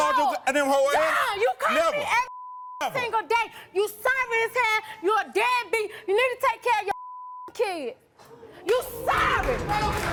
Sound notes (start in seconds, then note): 2.2 beep; 6.9 beep; 9.3 clapping; 9.9 dramatic music